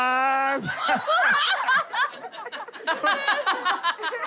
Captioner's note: laughing